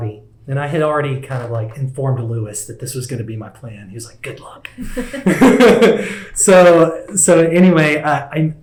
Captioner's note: laughter